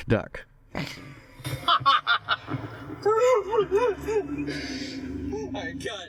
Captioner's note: laughter